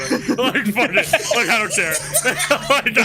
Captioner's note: all laughing